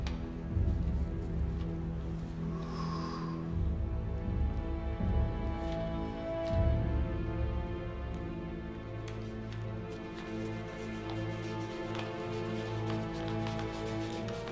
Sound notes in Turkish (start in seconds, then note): 2.4 Üflüyor; 7.2 Gerilim müziği